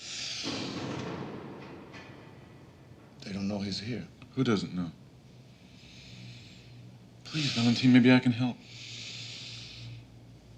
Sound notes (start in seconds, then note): 0.4 door closes in distance